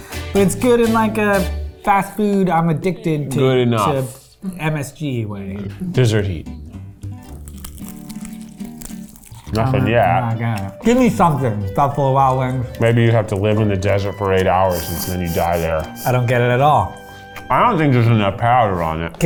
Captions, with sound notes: But it's good in like a fast food, I'm addicted to- - Good enough. - To MSG way. - Desert heat. (both crunching) (upbeat music) Nothing yet. - Gimme something, Buffalo Wild Wings. - Maybe you have to live in the desert for eight hours until you die there. - I don't get it at all. - I don't think there's enough powder on it.